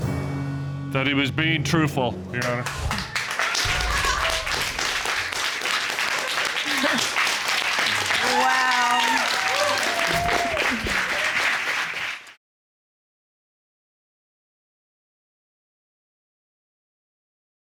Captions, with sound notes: that he was being truthful, Your Honor. [chuckles] -Wow. -[audience cheering]